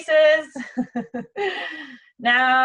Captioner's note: laughing